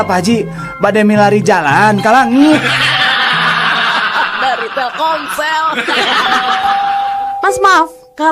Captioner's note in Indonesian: tertawa